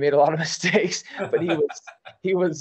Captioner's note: laughter